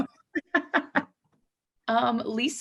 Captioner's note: laughing loudly